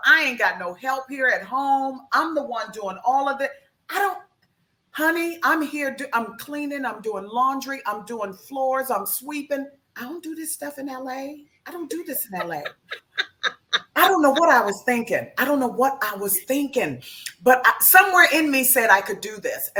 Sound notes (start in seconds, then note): 11.9 laughs